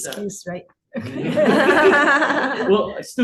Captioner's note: laughter